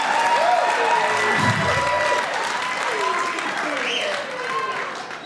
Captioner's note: audience continues cheering